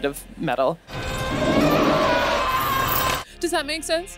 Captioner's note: shouting